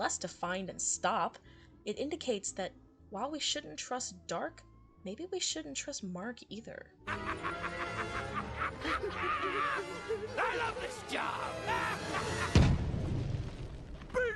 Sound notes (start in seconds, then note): 7.0 laughing